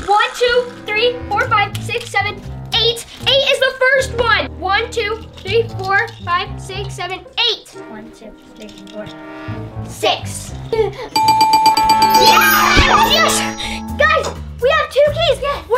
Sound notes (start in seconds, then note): 11.1 bell dinging; 12.0 kids cheering